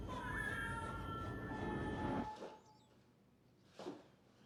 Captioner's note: baby crying